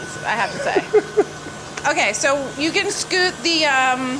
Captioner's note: Deandre laughs